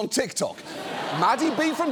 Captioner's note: studio audience laughs